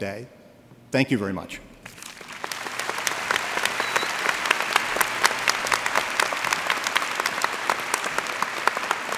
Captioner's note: applause